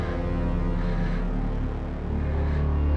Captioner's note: frightened breathing